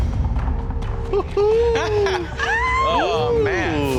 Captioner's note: dramatic music; people cheering